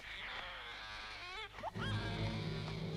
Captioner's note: baby crying; dramatic music